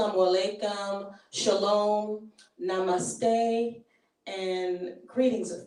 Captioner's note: speaking in foreign language